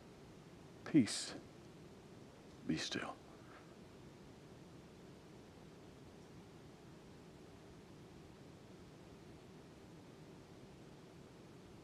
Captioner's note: silence